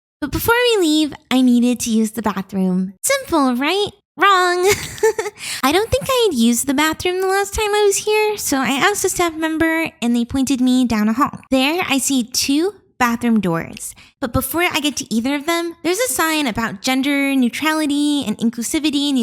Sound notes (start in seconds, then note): 4.5 laughs